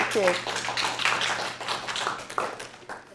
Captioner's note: applause